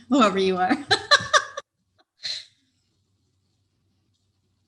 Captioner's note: laughs